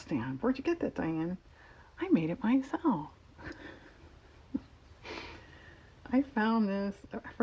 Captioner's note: laughs